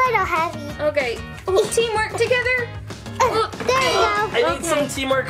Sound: both grunting

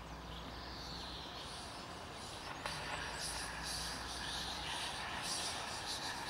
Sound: ghostly whispering

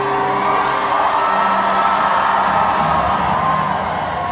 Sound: cheering

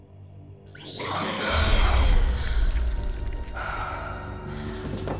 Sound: monster gurgling

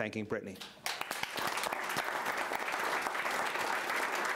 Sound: applause

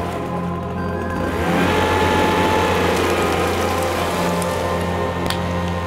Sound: leaf blower blowing

